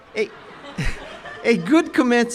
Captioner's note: chuckles